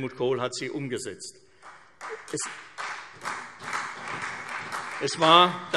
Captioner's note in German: Beifall CDU